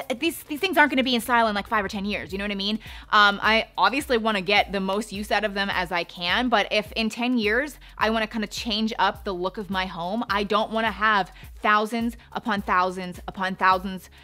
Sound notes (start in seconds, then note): none